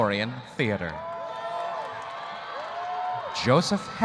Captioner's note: audience cheering